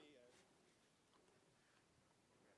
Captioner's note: speaking French